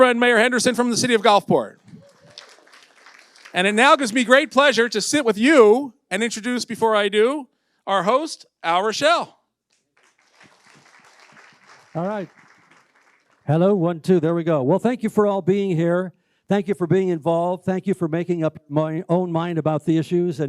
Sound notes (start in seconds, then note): 1.9 audience applauds